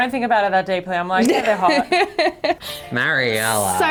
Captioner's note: laughing